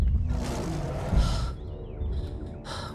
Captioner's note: roaring